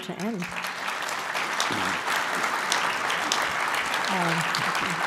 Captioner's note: applause